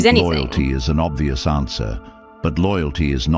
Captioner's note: AI Voice